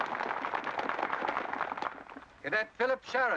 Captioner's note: applause